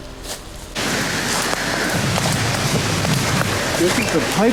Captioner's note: wind gusting